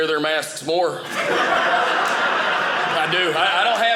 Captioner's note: audience laughing